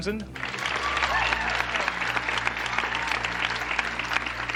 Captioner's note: audience applauding